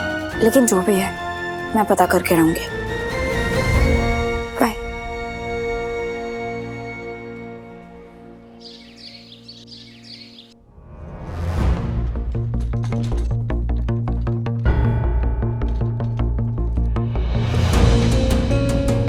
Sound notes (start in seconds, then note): 7.6 birds chirping; 11.2 tense music playing